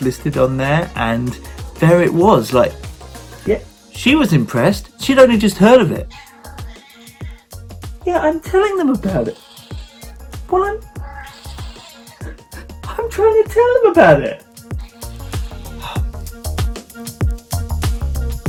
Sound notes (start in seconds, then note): 6.0 cat meowing; 8.8 cat meowing; 14.7 cat meowing; 18.2 upbeat music